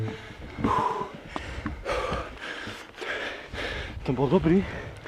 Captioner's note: heavy breathing